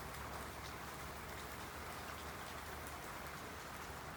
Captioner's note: sound of running water